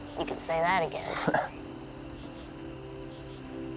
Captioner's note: chuckles